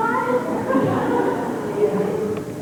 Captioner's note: laughter